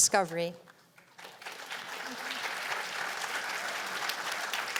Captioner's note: applause